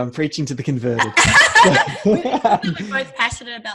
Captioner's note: laughing